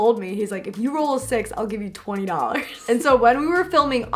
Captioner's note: laughs